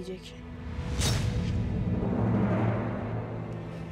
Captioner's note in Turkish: Kılıç sesi efekti